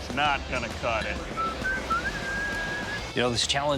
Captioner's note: whistling